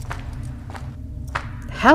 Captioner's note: footsteps